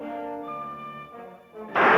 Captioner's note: gun fires